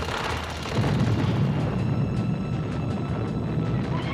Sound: explosion booms

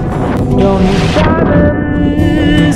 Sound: water splashing

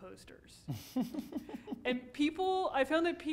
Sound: laughing

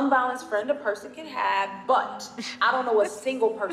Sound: laughs

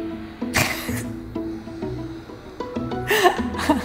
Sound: laughs

